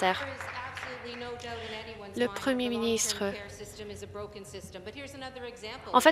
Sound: some Applause

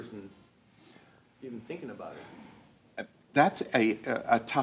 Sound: inhales

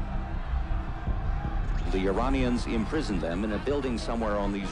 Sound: yelling

